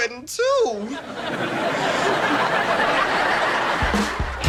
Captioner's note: audience laughter